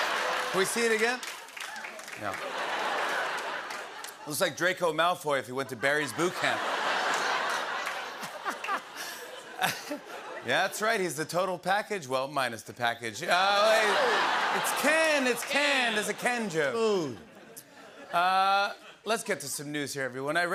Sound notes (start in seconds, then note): 0.0 laughter; 2.3 laughter; 5.6 laughter; 13.5 laughter